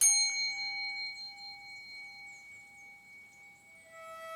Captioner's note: bell dings